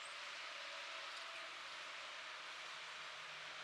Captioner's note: muffled traffice noise